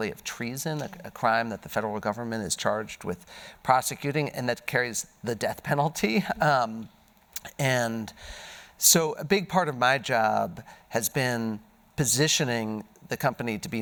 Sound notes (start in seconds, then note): none